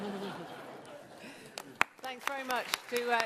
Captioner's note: laughter; applause